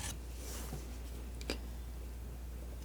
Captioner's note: metal scraping